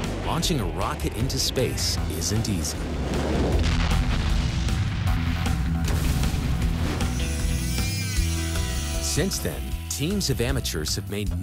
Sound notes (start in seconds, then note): 2.7 explodes; 6.9 tool grinding